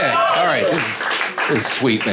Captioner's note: audience applauding